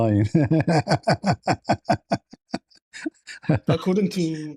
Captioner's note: laughter